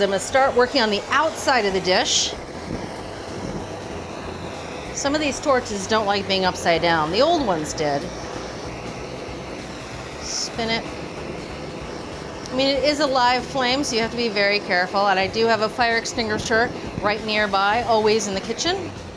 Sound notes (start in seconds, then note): 2.7 blow torch whooshing; 8.5 blow torch whooshing